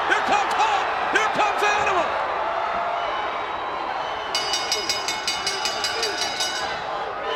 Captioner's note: bell ringing